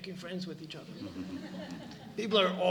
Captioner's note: laughter